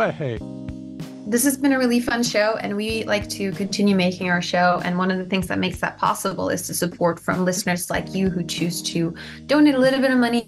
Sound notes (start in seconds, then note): none